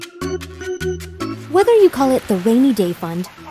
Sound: fun organ music; voiceover

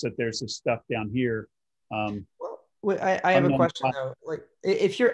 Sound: calm Voice

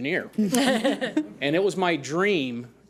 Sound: audience laughs

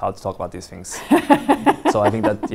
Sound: chuckles

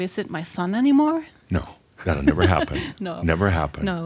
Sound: she chuckles

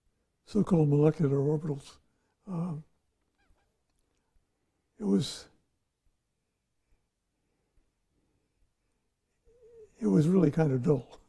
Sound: laughs

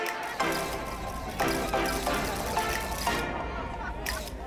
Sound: cameras flashing

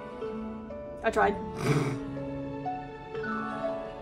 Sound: snorts

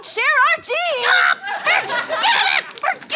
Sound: screams

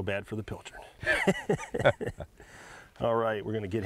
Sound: loud laughing

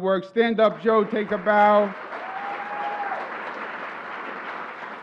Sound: cheers and applause

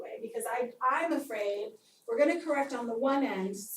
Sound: none

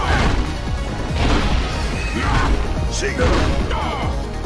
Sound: ground crashing

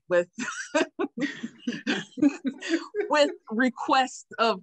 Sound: laughing

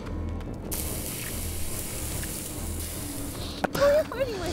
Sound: hissing

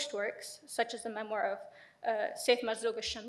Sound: speaks foreign language

